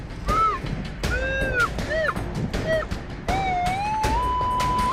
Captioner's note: sustained beeping